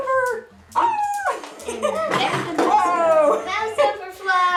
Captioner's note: beads falling